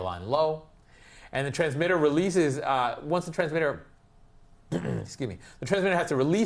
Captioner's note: cough